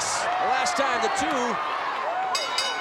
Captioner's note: ring bell dinging